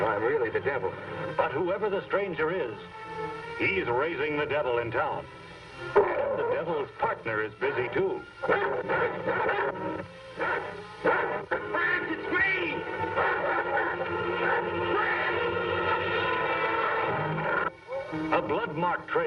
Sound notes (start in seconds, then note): 8.4 dog barking; 12.7 dramatic music